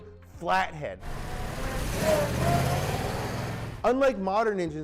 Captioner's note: engine accelerating